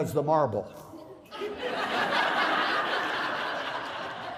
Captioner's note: laughter